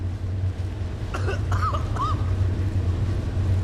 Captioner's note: coughing